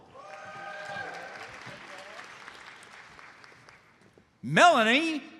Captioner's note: audience cheers and applauds